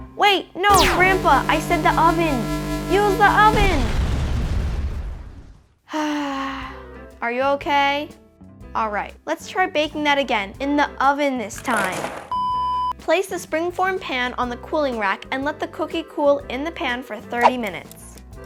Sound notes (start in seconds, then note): 4.1 explosion; 6.1 sighs